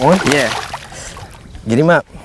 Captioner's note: splash